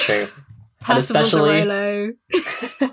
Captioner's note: laughs